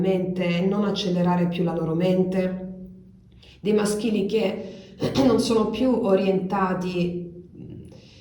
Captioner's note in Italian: schiarire la voce